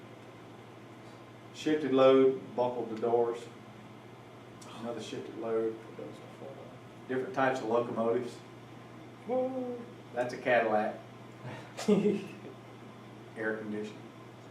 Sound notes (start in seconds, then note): 11.7 laughter